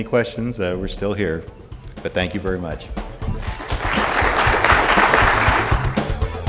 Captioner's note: audience applause